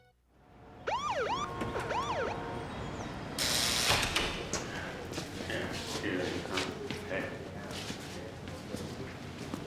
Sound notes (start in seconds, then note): 0.8 siren wails; 2.4 buzzing